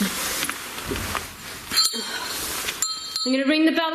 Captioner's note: bell ringing